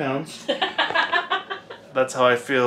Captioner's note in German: lacht